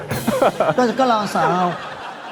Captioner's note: laugh